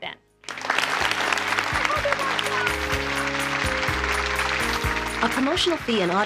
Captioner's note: audience applauding